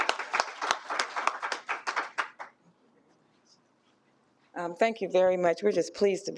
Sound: applause

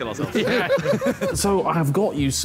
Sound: all laughing

